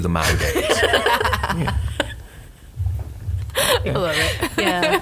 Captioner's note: group laughing